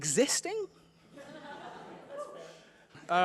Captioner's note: laughter